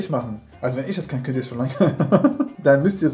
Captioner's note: laughing